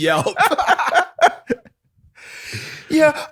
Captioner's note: laughter